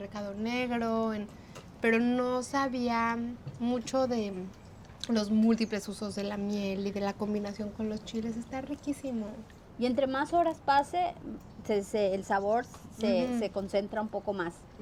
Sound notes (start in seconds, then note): 9.9 speaking Spanish